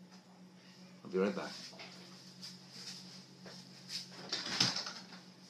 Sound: door shuts

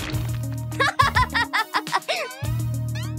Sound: laughing

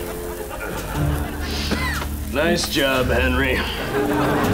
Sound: coughs

